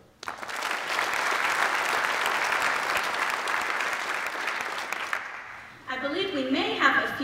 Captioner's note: applause